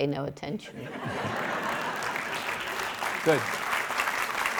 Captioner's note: audience laughing; audience clapping